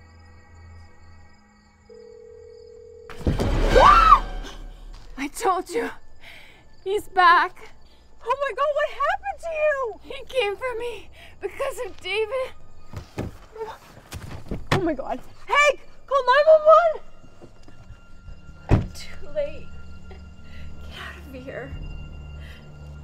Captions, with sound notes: (phone ringing) (Reese screams) - I told you. He's back. - Oh my God. What happened to you? - He came for me because of David. - Oh my God. Hank, call 911! - Too late. Get out of here.